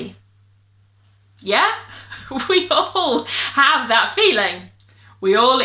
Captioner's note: laughs